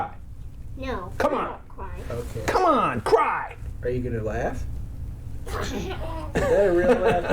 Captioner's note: laughs